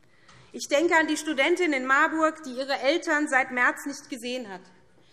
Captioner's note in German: none